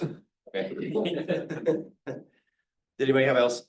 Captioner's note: laughs